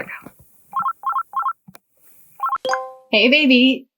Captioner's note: computer rings